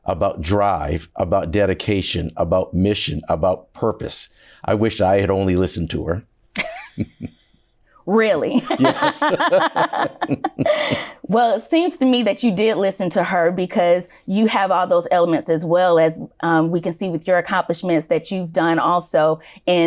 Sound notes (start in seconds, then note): 8.5 both laugh